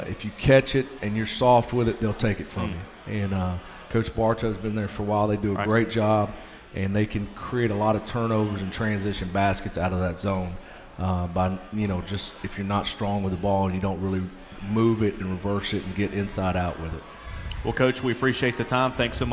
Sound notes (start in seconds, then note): none